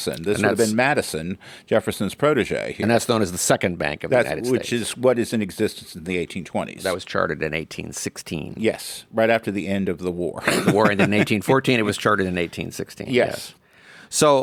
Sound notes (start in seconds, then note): 10.4 laughs